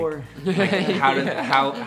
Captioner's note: band members laughing